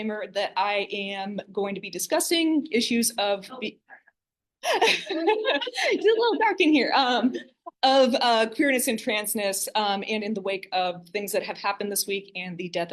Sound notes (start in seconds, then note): 4.6 laughter